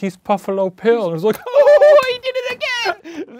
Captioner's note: laughing